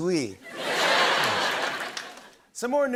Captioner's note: laughter